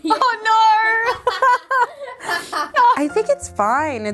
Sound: laughing

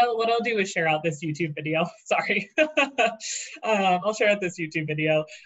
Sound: laughing

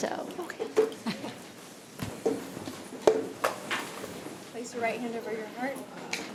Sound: chuckles

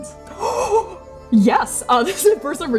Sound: excited gasping

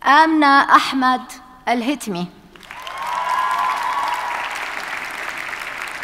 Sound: audience cheers and applauds

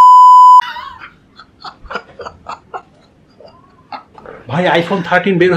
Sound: laughing out Loud

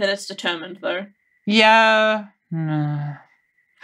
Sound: hesitant

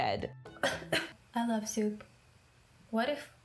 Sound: coughing

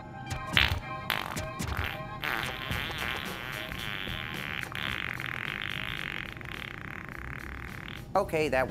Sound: long Fart Sound

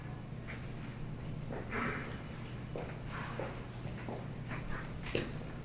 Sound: footsteps in background

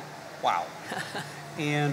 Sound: chuckles

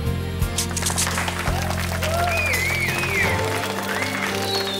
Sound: cheering and applauding

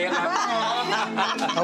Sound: everyone laughing

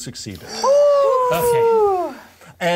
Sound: co-hosts sighing

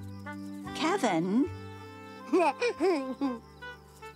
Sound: chuckling; giggles

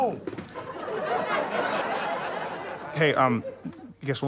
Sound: audience chuckles

